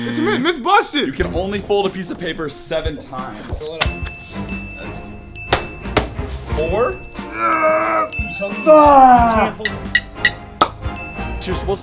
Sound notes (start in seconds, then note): 8.7 grunts